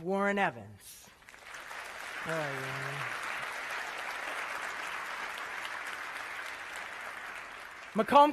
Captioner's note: applause